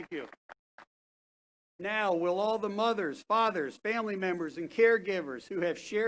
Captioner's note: applause